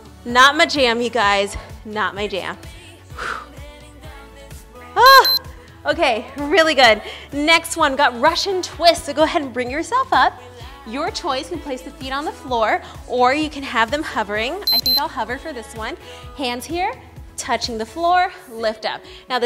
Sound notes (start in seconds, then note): 3.1 breathing out